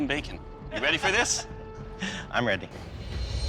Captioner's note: laughs; suspenseful music